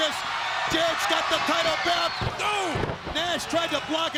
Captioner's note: body thudding